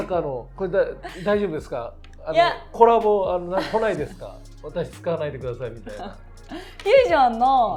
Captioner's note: laugh